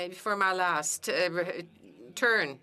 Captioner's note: speaking French